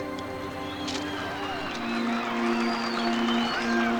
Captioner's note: cheering and applause